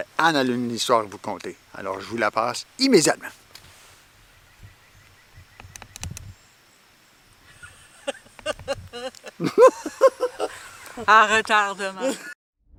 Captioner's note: laughs